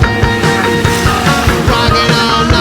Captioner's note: car engine roars